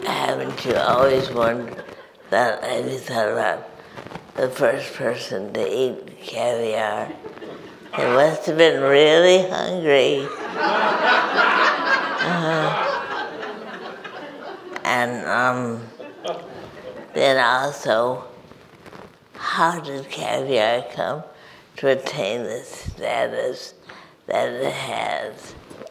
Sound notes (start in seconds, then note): 10.2 audience laughs